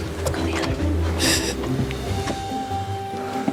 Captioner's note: laughs